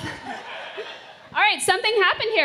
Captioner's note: laughter